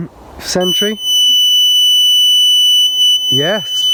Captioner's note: beeping